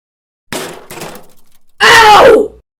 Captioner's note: bang! thu thud!